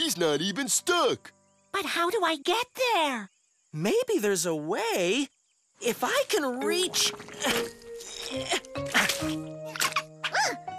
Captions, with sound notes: MOUSE SHOULD GO. HE'S NOT EVEN STUCK. BUT HOW DO I GET THERE? MAYBE THERE'S A WAY... IF I CAN REACH... (GRUNTING)